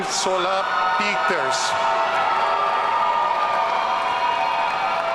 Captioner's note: audience cheering